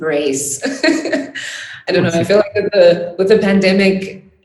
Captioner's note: laughing